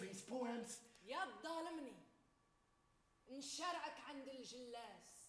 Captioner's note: woman speaks Arabic